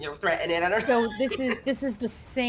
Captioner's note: laughs